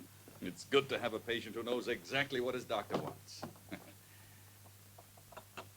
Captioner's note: chuckles